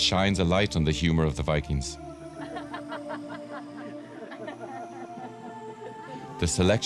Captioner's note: laughing loud